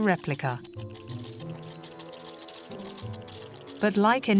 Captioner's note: machine clatters